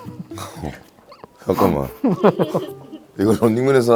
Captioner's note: haha